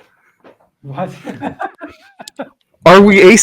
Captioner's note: laughs